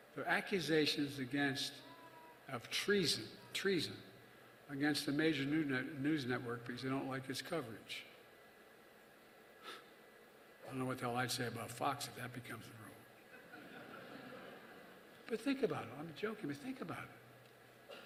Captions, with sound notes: their accusations against -- of treason -- treason against the major new net- -- news network because they don't like its coverage. I don't know what the hell I'd say about Fox if that becomes the rule. (Laughter.) But think about it. I'm joking but think about it.